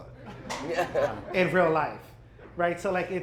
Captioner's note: laughter